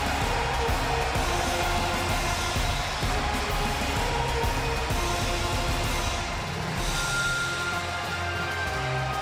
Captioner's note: cheers and applause